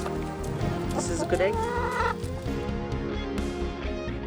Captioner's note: squawking